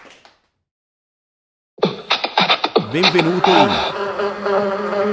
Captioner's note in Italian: Applauso